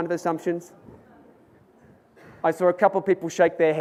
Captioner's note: audience murmurs